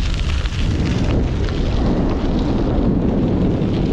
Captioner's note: wind rustling